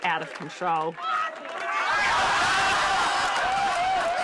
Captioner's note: crowd laughing and shouting